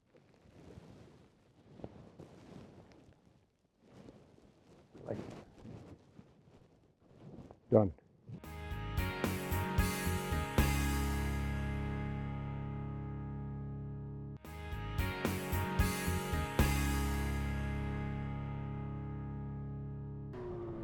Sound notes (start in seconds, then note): 5.3 snow crunches; 8.9 gentle music; 14.7 cheerful music